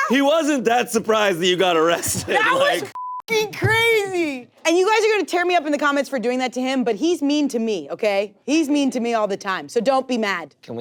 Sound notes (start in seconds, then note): 2.9 beep